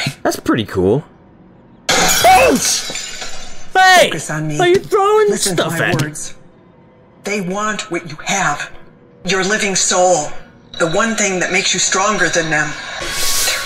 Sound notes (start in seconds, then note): 1.9 crash